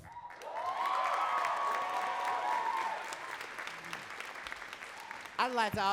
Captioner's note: audience cheering and clapping